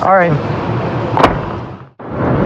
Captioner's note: car d doooor clcloses